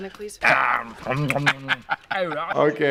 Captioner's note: making chewing noises